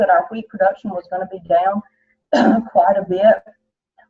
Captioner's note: coughs